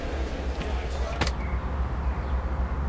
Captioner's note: door opens